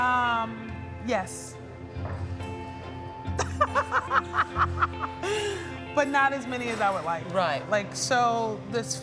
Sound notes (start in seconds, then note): 3.4 laughs